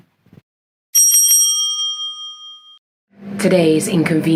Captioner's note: bell rings